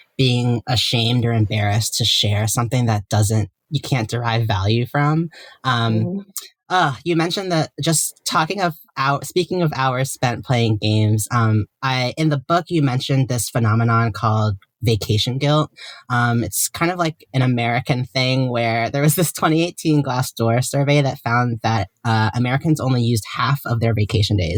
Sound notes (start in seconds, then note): none